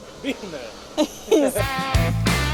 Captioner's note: laughs